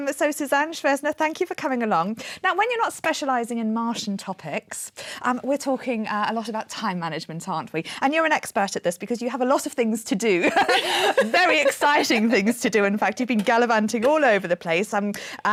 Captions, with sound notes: So Susanne Schwenzer, thank you for coming along. Now, when you're not specialising in Martian topics, we're talking a lot about time management, aren't we? And you're an expert at this, because you have a lot of things to do. [LAUGHING] Very exciting things to do, in fact. You've been gallivanting all over the place.